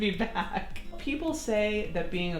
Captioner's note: laughing